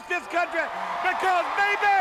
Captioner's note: crowd cheering